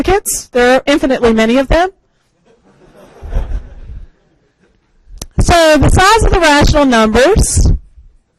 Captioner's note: crowd laughs, so you should too